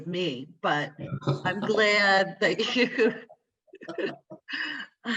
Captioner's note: laughing